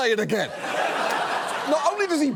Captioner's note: audience laughs